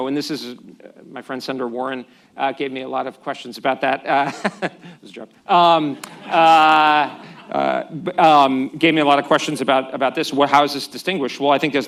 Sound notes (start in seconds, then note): 4.2 laughs; 6.8 laughter